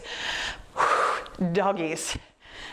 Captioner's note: exhales deeply